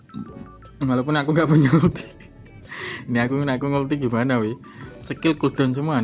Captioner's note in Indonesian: tertawa